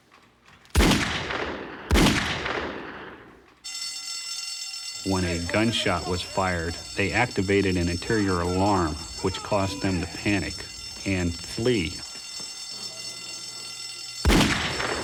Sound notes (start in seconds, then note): 0.7 gunshots; 3.5 alarm ringing; 14.2 gunshot